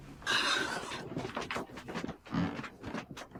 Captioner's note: crying